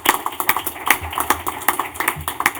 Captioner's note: applause